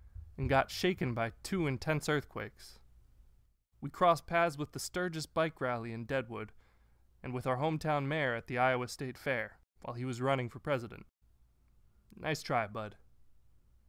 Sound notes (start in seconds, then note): none